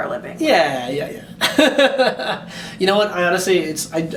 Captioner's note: laughing